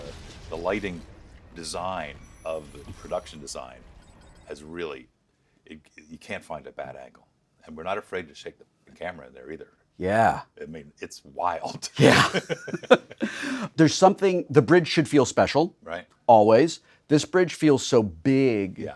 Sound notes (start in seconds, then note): 11.9 laughing